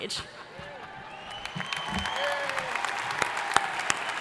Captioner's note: crowd applauding